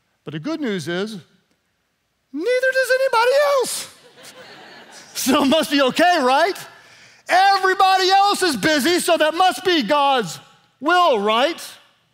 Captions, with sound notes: But the good news is neither does anybody else. (laughing) So it must be okay right? Everybody else is busy so that must be God's will right?